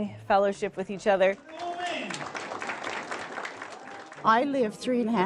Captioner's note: applause